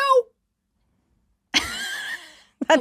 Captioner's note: chuckling